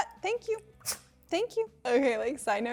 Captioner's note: dog sneezes